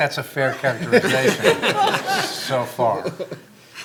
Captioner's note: laughing